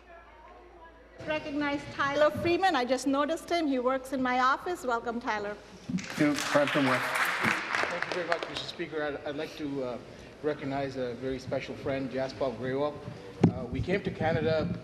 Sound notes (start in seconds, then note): 0.0 applause